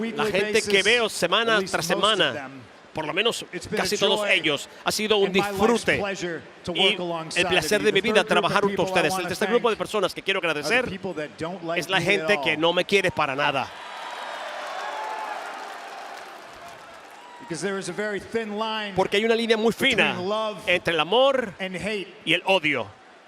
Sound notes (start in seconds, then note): 13.6 applause